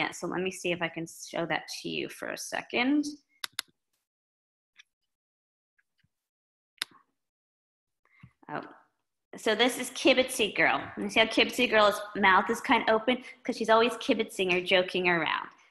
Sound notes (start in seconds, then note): 6.8 mouse clicking